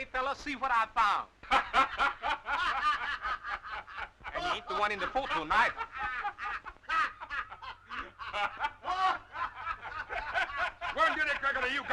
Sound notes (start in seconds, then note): 2.0 Joe and Chuck laughing; 7.2 Joe Corney and Chuck laughing